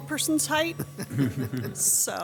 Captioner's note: audience laughing